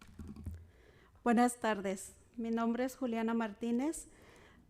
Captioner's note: speaking Spanish